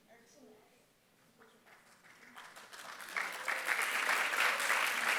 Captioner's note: applause